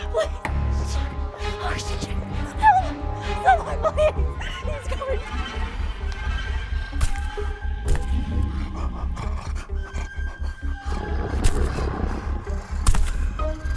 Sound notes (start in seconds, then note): 6.0 suspenseful music continues; 8.4 Brad sniffing; 10.9 Brad growling